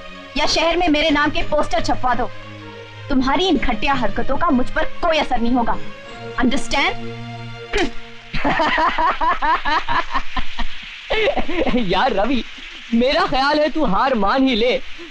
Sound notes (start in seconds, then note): 8.3 laughing